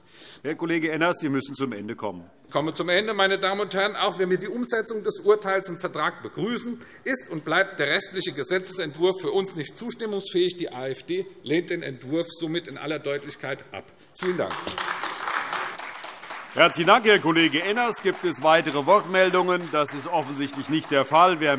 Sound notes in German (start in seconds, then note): 15.0 Beifall AfD